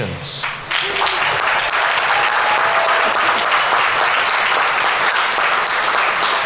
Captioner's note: audience applauding; audience members cheering